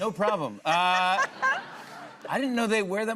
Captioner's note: laughter